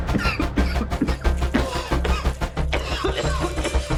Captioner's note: liquid pouring